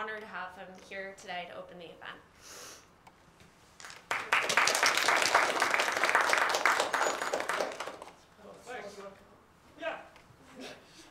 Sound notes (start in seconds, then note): 3.8 applause